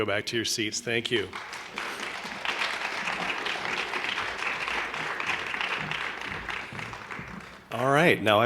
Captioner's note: applause